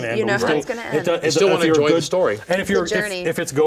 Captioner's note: chatter